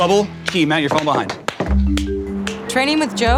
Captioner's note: claps